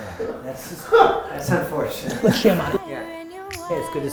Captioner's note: laughter